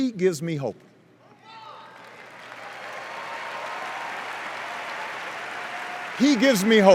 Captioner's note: cheers and applause